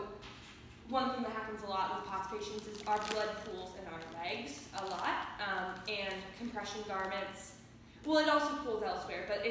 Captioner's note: background crinkling noise